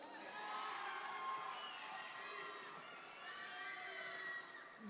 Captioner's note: audience members cheer